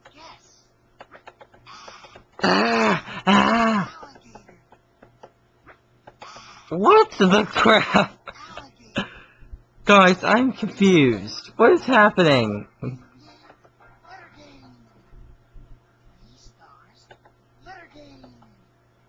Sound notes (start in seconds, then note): 1.6 throws up; 5.7 throws up; 7.5 laughs